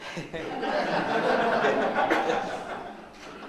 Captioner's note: all laughing